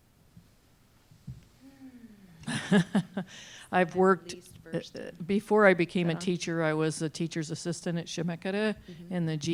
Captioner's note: laughs